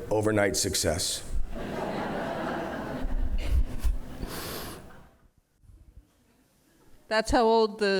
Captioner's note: laughter